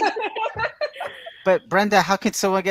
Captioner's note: everyone laughing